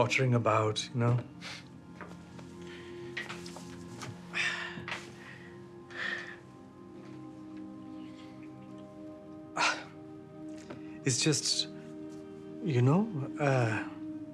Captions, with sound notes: Oh just pottering about, you know. [Loud exhale] [Exhales] It's just... you know...